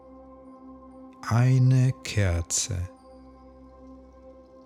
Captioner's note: german